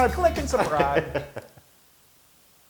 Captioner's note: laugh